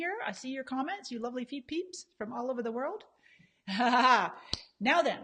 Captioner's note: laughs